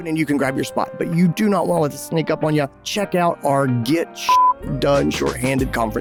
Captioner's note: beep